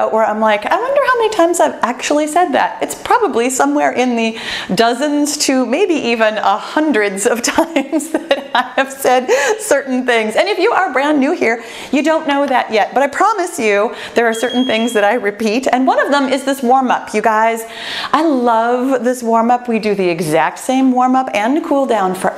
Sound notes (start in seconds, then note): 7.9 laughs joyfully; 14.3 bell chimes